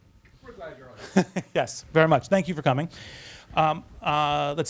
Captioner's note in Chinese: 笑声